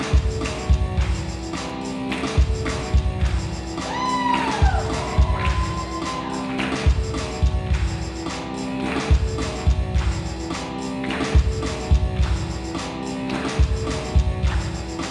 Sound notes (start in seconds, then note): 5.2 audience members cheer; 11.7 intense rock music